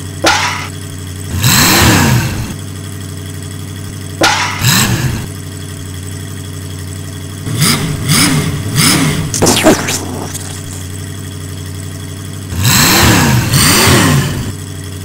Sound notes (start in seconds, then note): 0.1 engine revs; 0.1 slam; 4.1 engine revs; 4.1 slam; 7.3 engine revs; 9.3 explosion; 12.2 engine revs